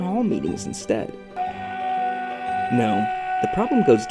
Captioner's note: radical left shaman yells